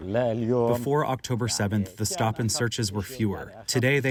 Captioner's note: through translator